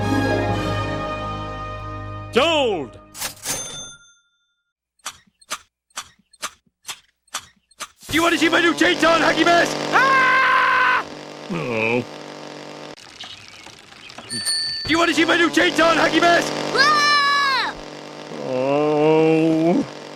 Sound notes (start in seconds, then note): 9.9 scream; 11.4 groan; 16.7 scream; 18.3 groan